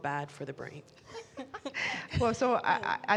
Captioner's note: both laughing